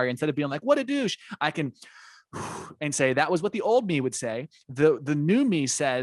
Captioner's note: deep breath